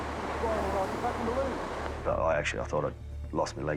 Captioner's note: water rushing